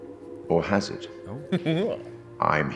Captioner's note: curious noises